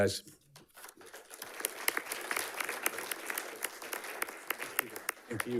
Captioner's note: audience clapping